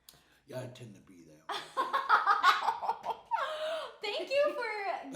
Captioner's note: laughing